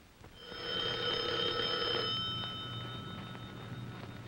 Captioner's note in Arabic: يرن الهاتف